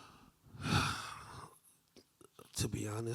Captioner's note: sighing